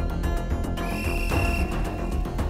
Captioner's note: Whistle blows